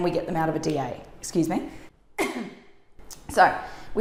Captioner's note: coughs